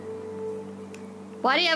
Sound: tisk

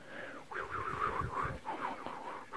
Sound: me making wind noises

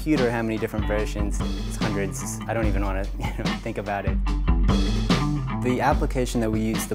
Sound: laughs

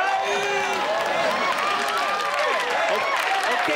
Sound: cheering

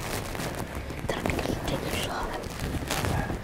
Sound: whispering

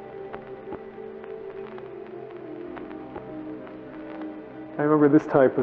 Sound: electrical static sound

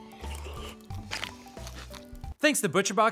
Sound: cereal crunches

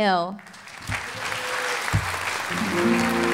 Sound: applause

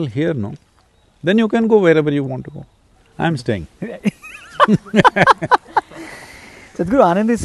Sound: both laugh

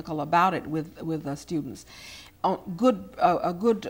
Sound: none

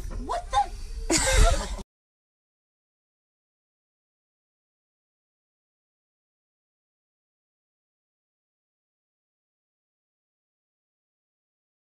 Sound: laughter

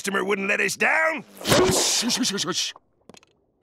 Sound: shushes him

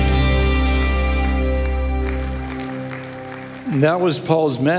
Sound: congregation applauding

